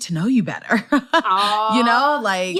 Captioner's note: laughter